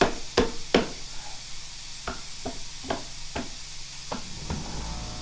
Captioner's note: drill whirring